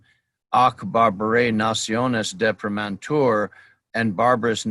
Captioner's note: speaking in foreign language